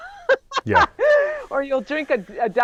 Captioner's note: laughs